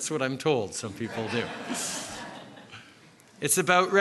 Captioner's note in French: Rires